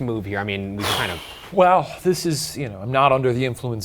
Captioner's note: sighs